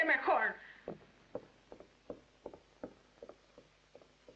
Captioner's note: music Stops